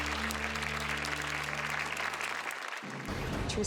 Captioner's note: applause